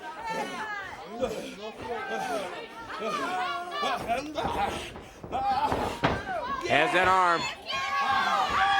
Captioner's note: crowd chatter